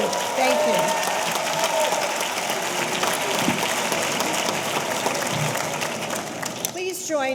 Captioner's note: audience cheering; audience applauding